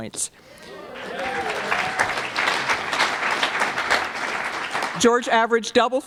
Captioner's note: applause